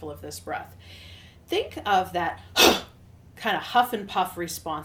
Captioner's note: exhales sharply